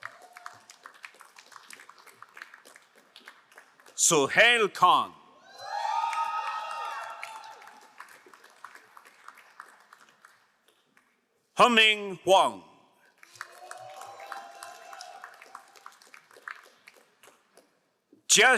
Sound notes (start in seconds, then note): 0.0 crowd applauding; 5.5 crowd cheering and applauding; 13.2 crowd cheering and applauding